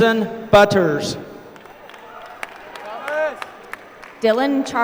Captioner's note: applause